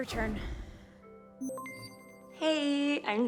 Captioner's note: system beeps